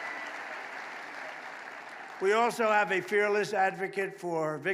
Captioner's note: applause